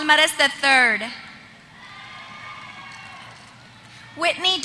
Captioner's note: applause